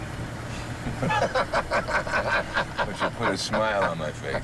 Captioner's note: both laughing